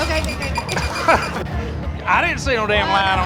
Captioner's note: laughs